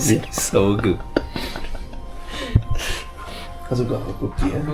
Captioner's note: laugh